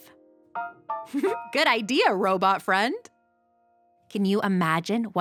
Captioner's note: giggles